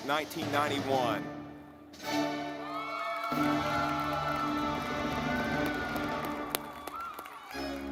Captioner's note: audience clapping